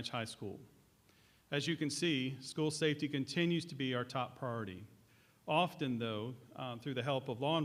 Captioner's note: none